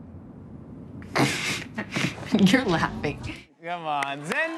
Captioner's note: chuckles